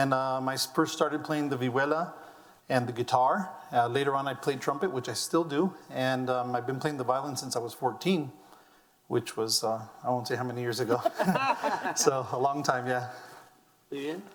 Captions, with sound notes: I first started plying the vihuela and the guitar, later on I played trumpet which I still do, I've been playing the violin since I was 14 which I was, I won't say how many years ago. (laughing) So a long time, yeah.